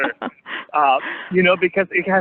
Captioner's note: laughter